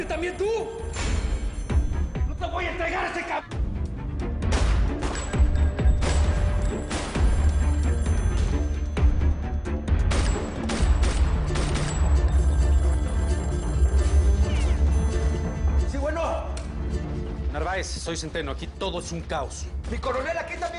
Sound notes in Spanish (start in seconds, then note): 4.4 Disparos; 7.6 Suena el teléfono; 10.0 Disparos